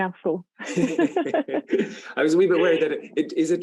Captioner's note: both laughing